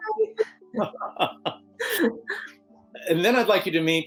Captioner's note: laughing